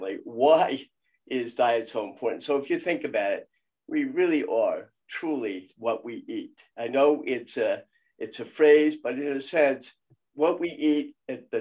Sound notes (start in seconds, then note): none